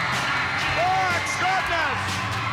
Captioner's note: crowd cheers